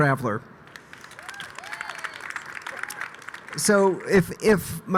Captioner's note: audience applauding